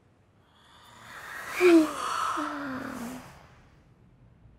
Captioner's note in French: bâillements